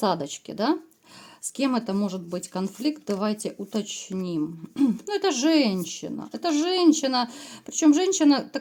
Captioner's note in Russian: откашливается